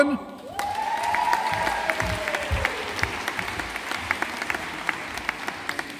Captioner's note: audience applauding